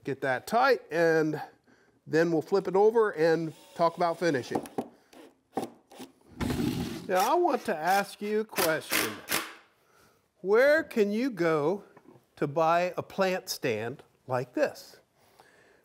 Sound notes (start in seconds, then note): 5.2 drill tapping